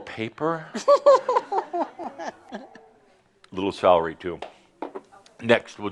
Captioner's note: giggles